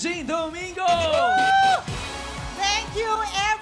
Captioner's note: upbeat music playing; cheering